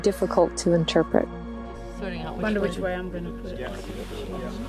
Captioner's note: background chatter